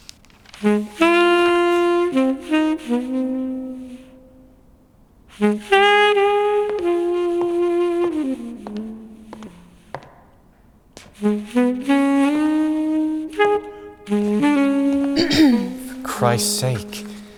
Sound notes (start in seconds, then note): 0.0 paper rustling; 5.6 a woman's high heels click across the floor; 15.1 throat clearing